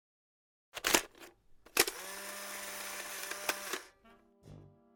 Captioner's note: picture printing